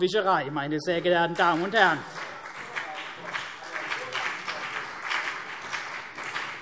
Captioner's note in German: Beifall CDU und BÜNDNIS 90/DIE GRÜNEN